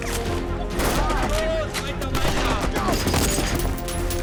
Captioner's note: speaking German